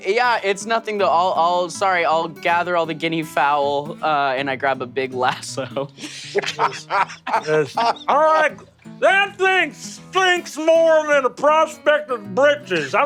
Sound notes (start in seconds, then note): 5.3 laughs